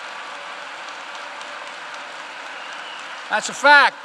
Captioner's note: applause